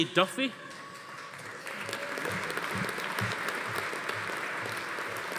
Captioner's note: audience applauding